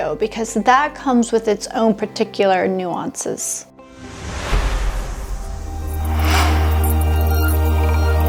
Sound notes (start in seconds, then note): 4.0 logo whooshes